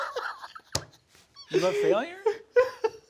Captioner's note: palm thumping; Sam laughing